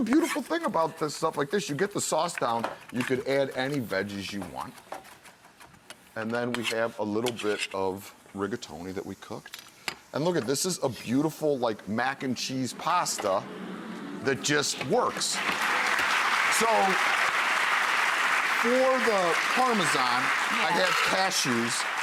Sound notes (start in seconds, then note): 14.8 audience clapping